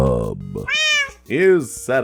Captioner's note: meow